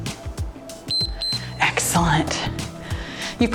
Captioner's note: timer beeps